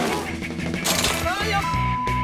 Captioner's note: chainsaw revving; traps snapping; victim shouting